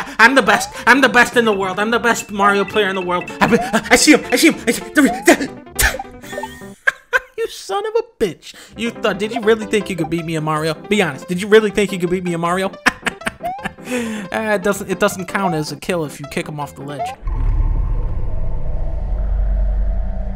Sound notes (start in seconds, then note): 3.3 stutters; 6.1 laughs; 12.8 laughs; 16.0 creepy Music